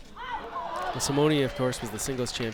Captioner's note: crowd groans